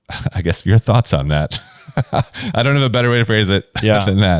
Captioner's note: laughs